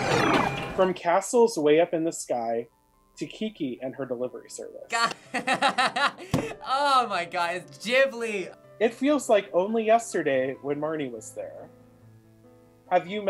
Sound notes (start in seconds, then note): 0.0 ambient arcade intro; 4.9 laughs